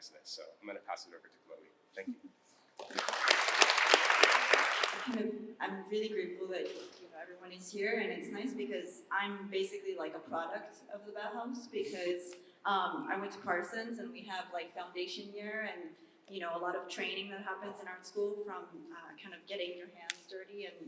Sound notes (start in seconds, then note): 2.8 applause